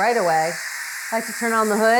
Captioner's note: steam whistling